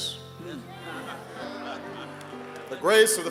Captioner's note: funeral attendees murmuring